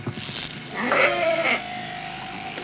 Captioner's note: bleating, whirring of the scissors